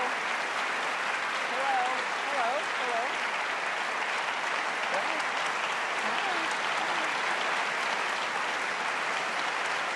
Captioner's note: applause